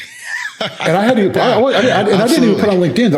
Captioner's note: laughing